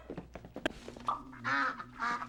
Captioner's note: quacks